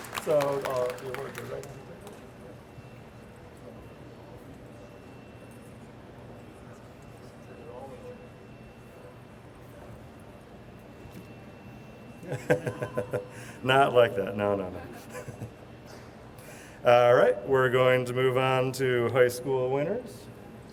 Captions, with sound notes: (chuckles) Not like that, no, no, no. All right, we're going to move on to high school winners.